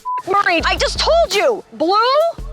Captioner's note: beeping